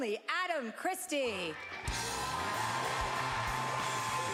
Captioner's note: cheering; rhythmic music